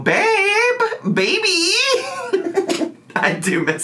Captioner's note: laughs